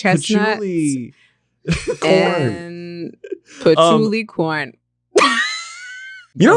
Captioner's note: laughs